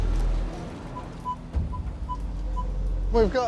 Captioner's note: metal detector beeping